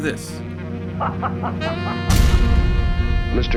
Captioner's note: overdramatic laughing